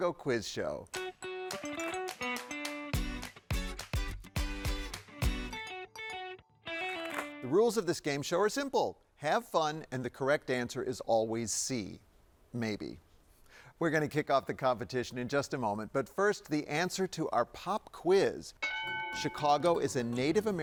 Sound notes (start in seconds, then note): 1.0 upbeat music; 7.0 paper rustles; 18.6 bell dings